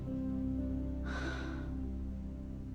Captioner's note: sighs